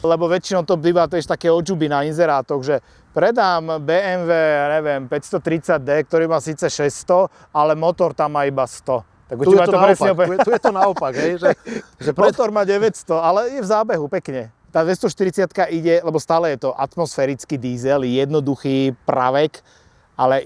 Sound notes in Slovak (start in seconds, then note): 9.4 smiech